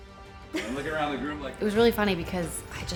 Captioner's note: laughs